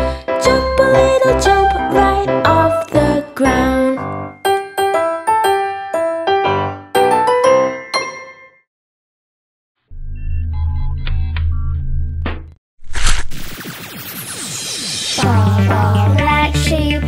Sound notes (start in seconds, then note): 10.1 mechanical whirring and beeping; 13.2 lasers firing